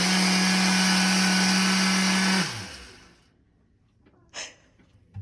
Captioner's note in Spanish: Más sonidos de molienda del procesador de alimentos